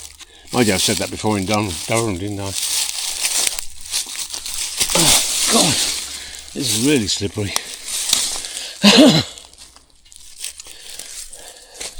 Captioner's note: coughs